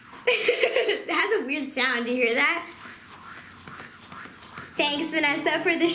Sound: laughs

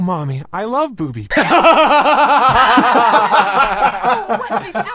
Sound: heavy laughter

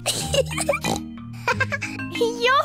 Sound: giggles and snorts; laughs

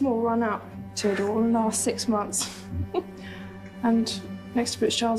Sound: shyly chuckles

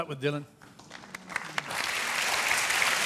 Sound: applause

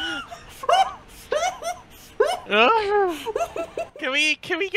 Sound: hyperventalating

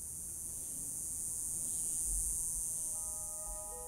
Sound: cicadas buzzing; mysterious music

